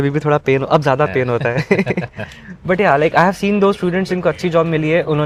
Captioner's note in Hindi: हंसी